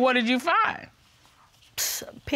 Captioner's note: exhales